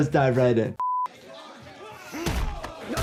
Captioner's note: screen beeping